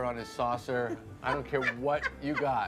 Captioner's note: Kristen laughs